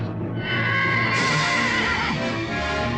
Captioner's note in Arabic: صهيل الحصان; موسيقى مشوقة